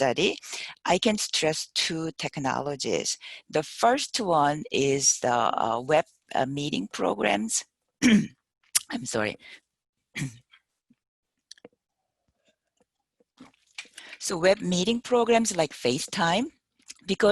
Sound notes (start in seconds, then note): 8.0 clears throat